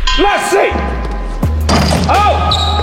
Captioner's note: dunk sound